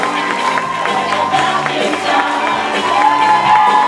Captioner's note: audience cheers and applause